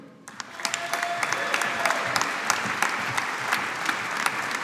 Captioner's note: audience applauding